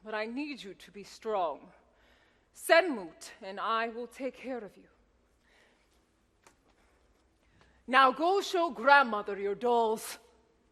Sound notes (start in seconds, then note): none